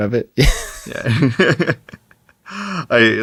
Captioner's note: laughter